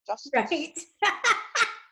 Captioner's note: laughing